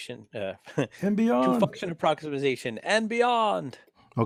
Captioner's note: laugh